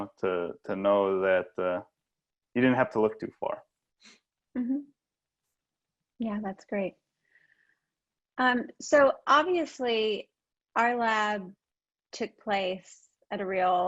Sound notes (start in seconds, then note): none